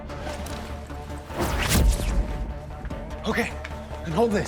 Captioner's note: zapping